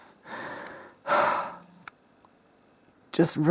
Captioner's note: exhales amusedly